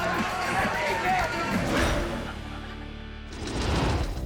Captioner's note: icon whooshing; logo swooshing